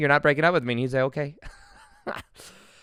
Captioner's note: laughs